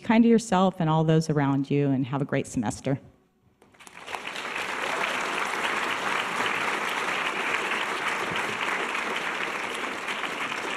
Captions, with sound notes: Be kind to yourself and all those around you and have a great semester. (audience applause)